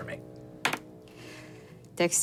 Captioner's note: dice rolling